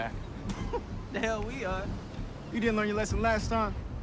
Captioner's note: laughs